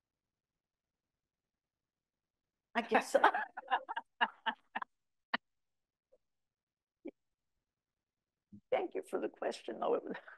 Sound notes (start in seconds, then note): 2.8 laughs